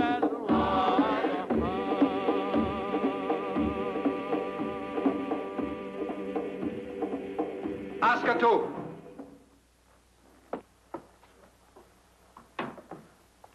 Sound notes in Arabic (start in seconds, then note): 8.7 يتحدث لغة أجنبية